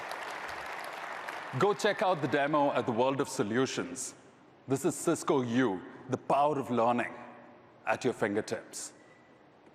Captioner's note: applause